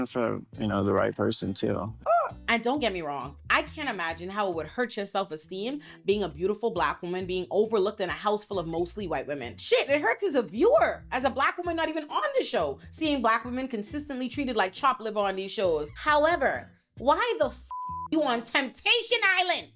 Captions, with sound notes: for the right person too. And don't get me wrong, I can't imagine how it would hurt your self-esteem being a beautiful black woman, being overlooked in a house full of mostly white women. Shit, it hurts as a viewer, as a black woman not even on the show, seeing black women consistently treated like chopped liver on these shows. However, why the (beep) you on Temptation Island,